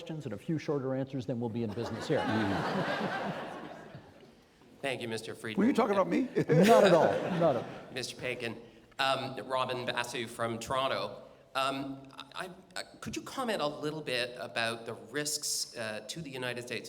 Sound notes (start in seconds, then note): 1.7 audience laughing